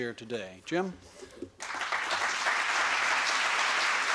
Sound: applause

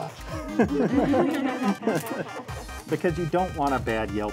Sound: and students laugh

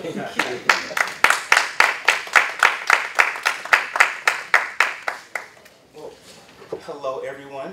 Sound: applause

